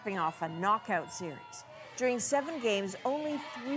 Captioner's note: cheers and Applause